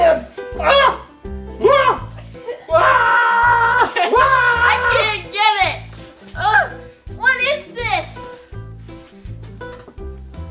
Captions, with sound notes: Go ahead! (screaming) - I can't get it! (grunts) What is this?